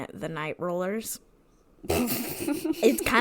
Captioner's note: laughs